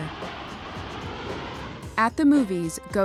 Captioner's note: engine rumbling